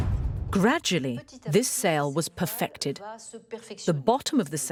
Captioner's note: voiceover